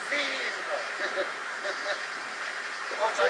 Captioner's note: laugh